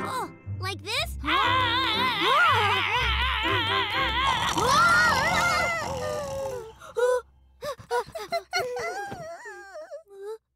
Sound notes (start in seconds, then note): 3.7 all screaming; 4.2 hollering; 4.2 loud rumbling snore; 7.4 Hogi panting; 7.9 both whimpering